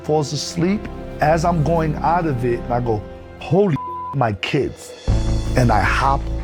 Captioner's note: beep